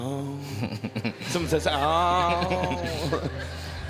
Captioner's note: laughing